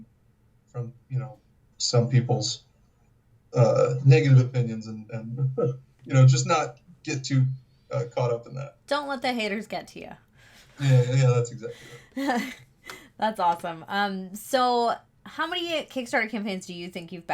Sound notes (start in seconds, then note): 5.1 chuckles; 13.5 laughs